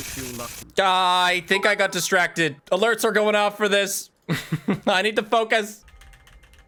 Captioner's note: laughs